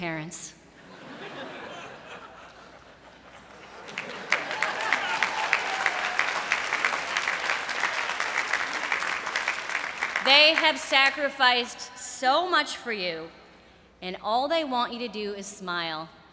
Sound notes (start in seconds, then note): 0.8 laughter; 3.5 applause